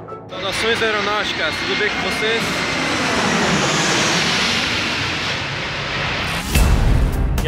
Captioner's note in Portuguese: Música de abertura; Forte som do avião pousando em Congonhas